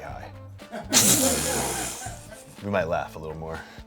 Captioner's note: everyone laughs